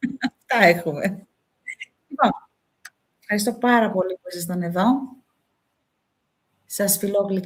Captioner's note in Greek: γέλια